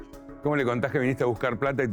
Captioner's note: Spanish